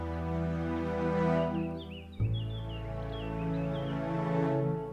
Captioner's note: birds singing